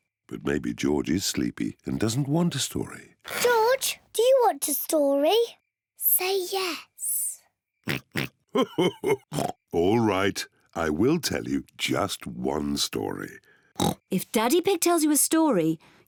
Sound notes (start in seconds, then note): 6.0 whispers; 8.5 chuckles; 8.8 oinks; 13.7 oinks